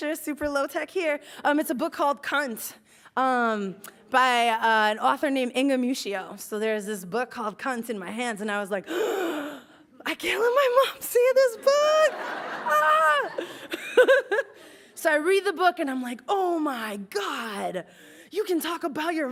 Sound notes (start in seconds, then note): 8.9 gasps; 11.6 laughs